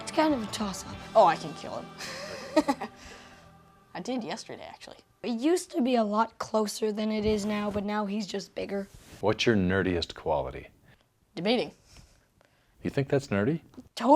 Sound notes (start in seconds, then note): 1.9 Jonathan laughs